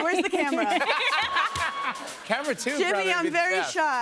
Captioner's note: laughter